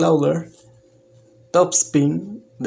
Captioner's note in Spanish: Silencio